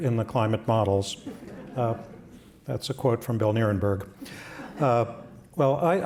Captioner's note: laughter